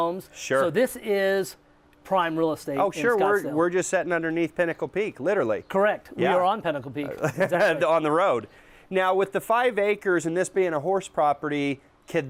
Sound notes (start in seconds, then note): 7.0 laughs